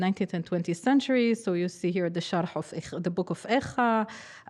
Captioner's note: speaking hebrew